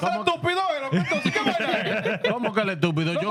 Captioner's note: speaking Foreign Language